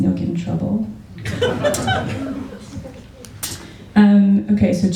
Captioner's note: laughter